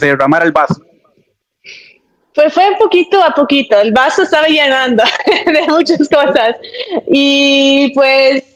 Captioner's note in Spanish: resoplido; risas